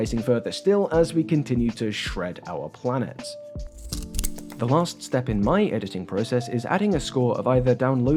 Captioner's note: snip